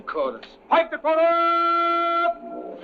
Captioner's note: yelling